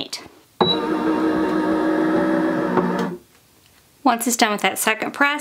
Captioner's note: press rumbling